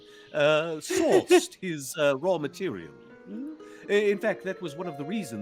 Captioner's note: Cornette laughs